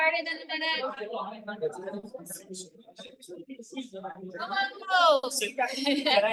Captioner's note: class chattering indistinctly